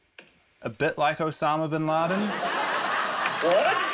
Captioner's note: laughter